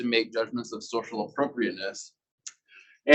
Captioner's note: male Voice